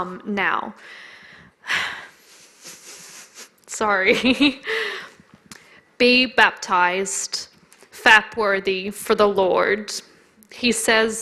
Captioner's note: laughs